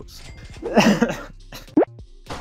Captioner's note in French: rigole en toussant